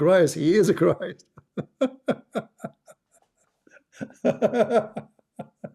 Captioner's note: Ketawa